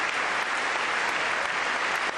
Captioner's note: applause